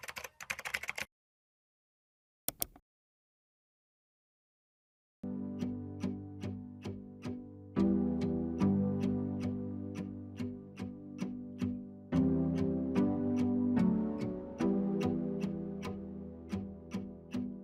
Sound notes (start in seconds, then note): 0.0 typing effect; 2.5 mouse clicking effect; 5.2 pensive instrumental music